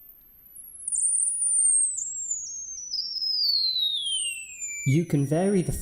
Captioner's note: high pitched noise